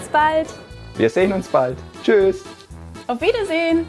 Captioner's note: speaks in foreign language